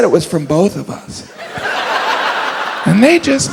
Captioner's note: audience laughs